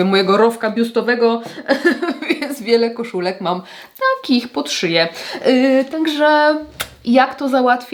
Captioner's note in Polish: śmiech